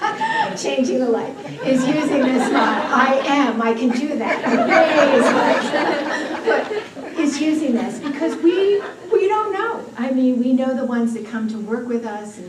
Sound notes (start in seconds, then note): 3.8 laughter